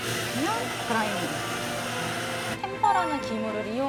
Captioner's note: grinding